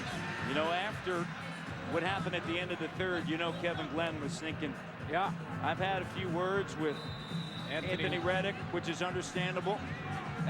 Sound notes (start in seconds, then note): 2.6 whistle